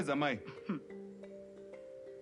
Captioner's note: jeering